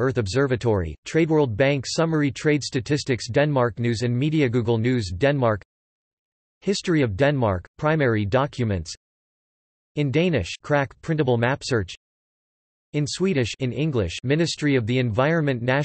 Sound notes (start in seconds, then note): 8.9 in Danish; 11.8 in Swedish